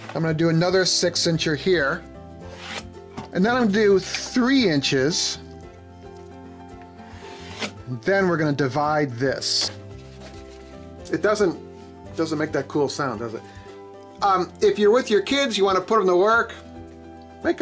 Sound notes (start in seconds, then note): 2.6 pencil draws on wood; 7.0 pencil draws on wood; 10.1 waves saw